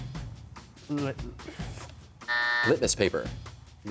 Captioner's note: buzzer sounds